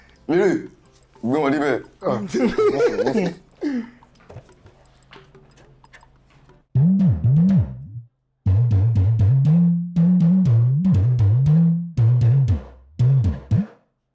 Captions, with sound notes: Ehh... let him feel it. [Laughs] Don't worry, don't worry. [Drum beat]